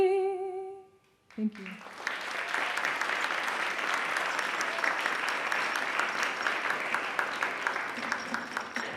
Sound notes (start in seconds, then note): 3.0 applauds